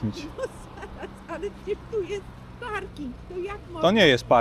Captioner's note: laughter